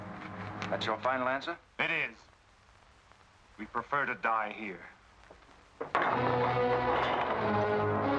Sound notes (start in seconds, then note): 5.9 heavy door closing; 6.0 dramatic music